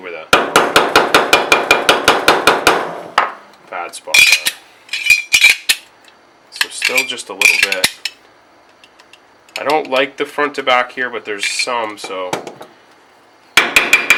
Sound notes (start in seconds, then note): 2.7 hammering on metal